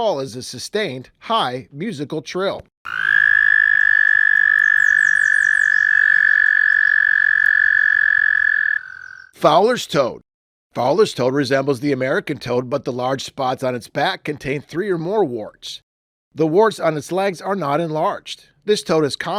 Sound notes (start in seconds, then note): 2.8 american toad call